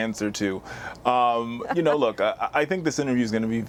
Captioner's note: laughter